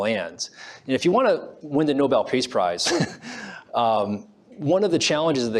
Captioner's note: laughs